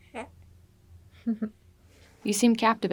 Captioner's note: baby laughing